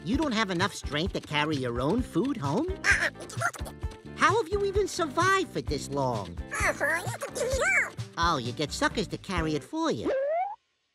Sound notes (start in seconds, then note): 2.9 chattering; 6.5 chatters